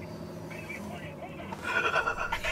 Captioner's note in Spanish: voz flojito